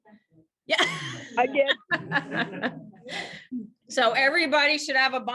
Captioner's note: laughs